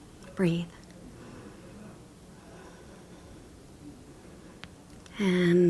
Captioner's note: breathing deeply